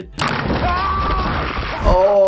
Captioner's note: character screaming